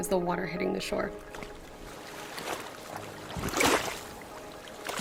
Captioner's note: water splashing